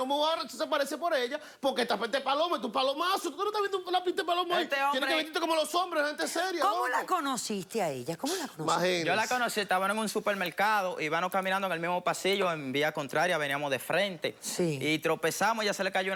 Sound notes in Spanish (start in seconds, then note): none